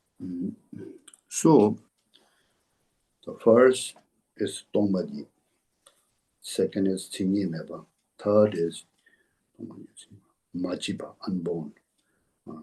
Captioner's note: tibetan